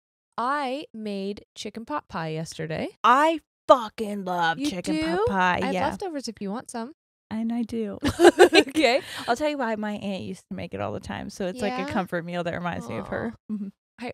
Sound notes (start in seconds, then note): 8.0 both laugh